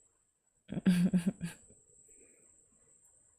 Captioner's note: laughs